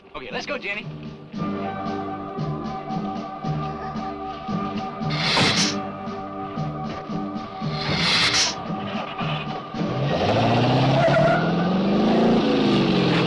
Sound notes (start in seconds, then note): 1.9 dramatic music; 5.0 lizard hissing; 7.7 engine cranks; 10.3 engine revving